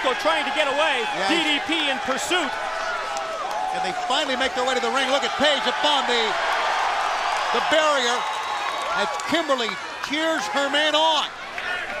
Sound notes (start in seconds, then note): 6.3 crowd chatter